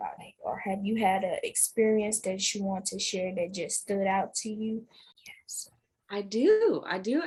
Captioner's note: whispered